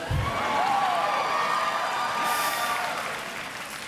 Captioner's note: audience cheers